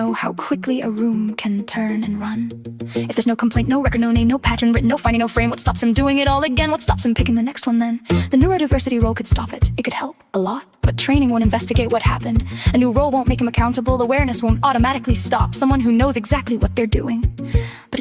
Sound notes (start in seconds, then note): 9.3 female voice 1